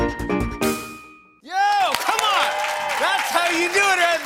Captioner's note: cheers and applause